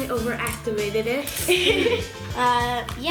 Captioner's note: laughter